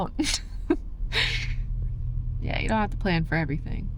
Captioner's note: laugh